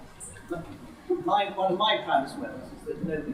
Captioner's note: laugh